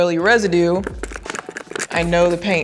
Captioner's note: hand cleaner crackles